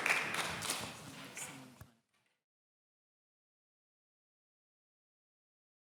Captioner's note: audience speaking indistinctly